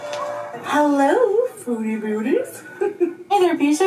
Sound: giggles

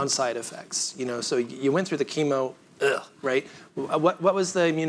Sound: groans

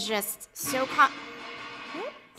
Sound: banging

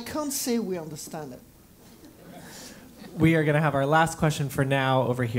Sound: laugh

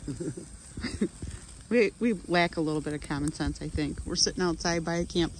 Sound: laughing in background

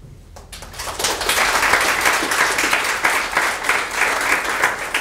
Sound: audience applauding

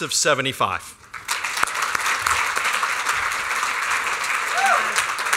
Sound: applause

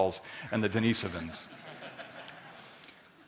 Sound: laughter

